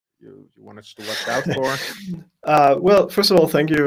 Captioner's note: laughs